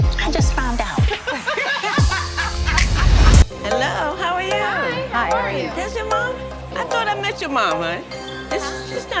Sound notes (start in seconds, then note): 1.2 all laughing